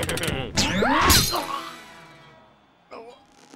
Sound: laughs maniacally; screams

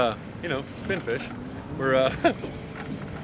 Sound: chuckling

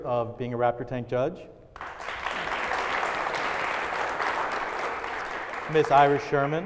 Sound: applause

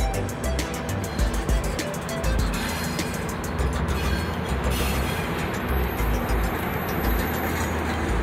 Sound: metallic hissing and grinding, music

